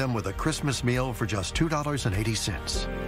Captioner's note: none